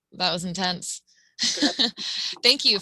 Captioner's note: laughing